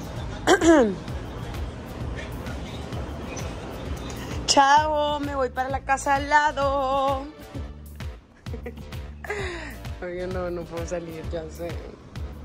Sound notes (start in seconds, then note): 0.4 coughs to call attention